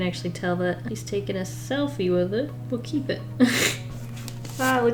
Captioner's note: laughs